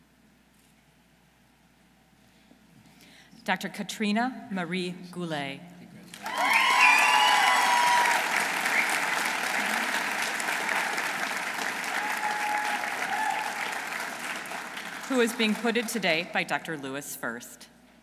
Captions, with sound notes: Dr. Catrina Marie Goulet. -(audience cheering) -(audience applauding) Who is being put in today by Dr. Lewis First.